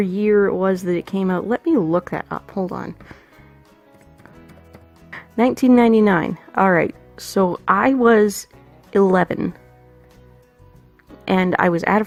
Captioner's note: typing noises